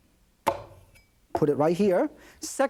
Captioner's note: knife banging